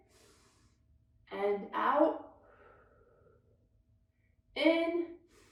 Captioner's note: exhales deeply; inhales deeply; inhales deeply